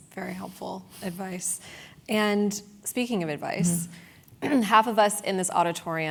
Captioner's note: cough